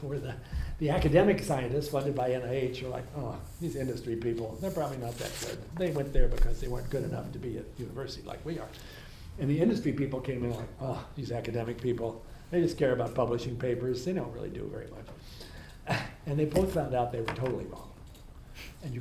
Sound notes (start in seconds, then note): 15.9 laughs